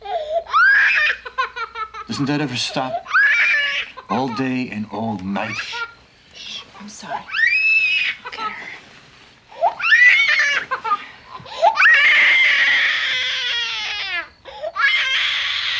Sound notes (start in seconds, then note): 8.1 continues crying; 9.4 andrea continues crying